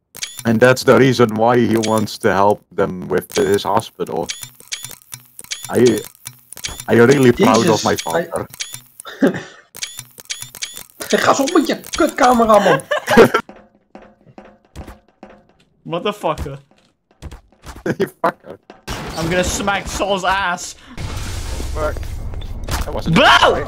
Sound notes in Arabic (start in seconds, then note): 4.5 نقر الكاميرا; 9.0 يضحك; 12.4 الكل يضحك